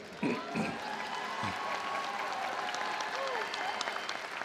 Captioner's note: attendees applauding